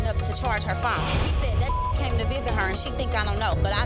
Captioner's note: beep